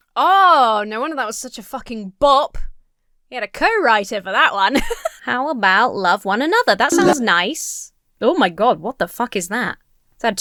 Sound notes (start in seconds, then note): 4.7 Emma laughs